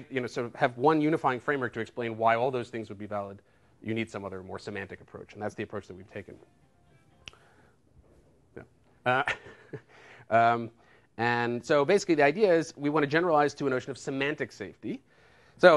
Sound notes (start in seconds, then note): 7.0 cell phone ringing; 9.1 chuckles